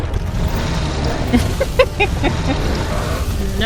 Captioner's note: chuckles